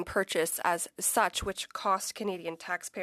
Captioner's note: speaking French